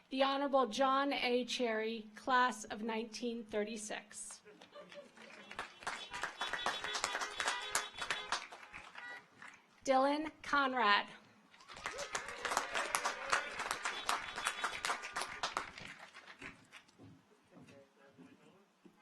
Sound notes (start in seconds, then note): 4.8 audience applauds; 5.4 car horns honking; 11.6 audience applauds; 11.6 car horns honking